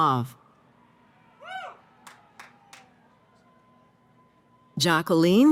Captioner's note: cheering